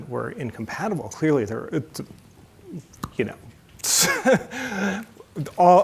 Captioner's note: chuckles